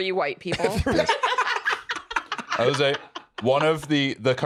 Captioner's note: laugh